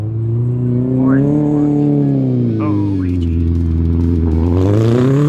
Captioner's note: engine revving